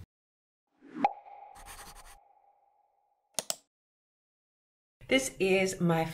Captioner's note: pop and mouse click sound